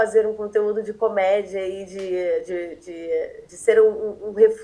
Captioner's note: stammers